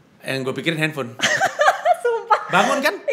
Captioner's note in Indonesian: ketawa